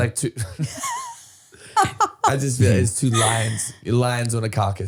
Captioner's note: laughing